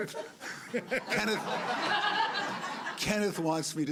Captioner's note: laughter